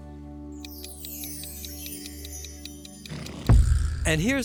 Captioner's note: clock ticking